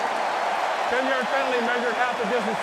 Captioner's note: cheering